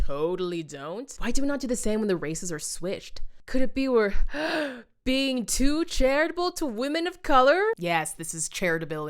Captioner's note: gasp